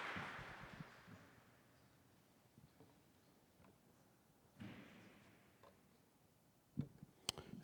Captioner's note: audience applauding